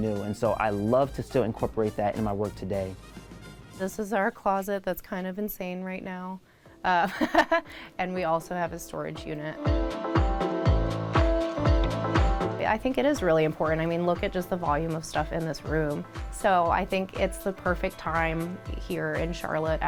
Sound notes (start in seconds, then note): 6.7 laughs; 9.9 upbeat music